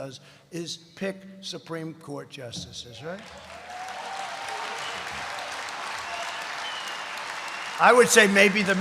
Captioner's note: applause